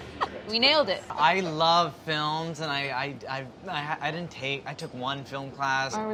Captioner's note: giggles; stuttering